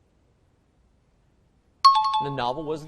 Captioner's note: time chime